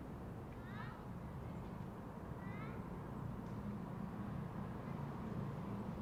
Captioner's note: child chatters distantly